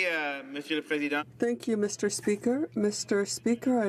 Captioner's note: speaking in French